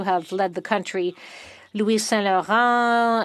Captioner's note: speaking French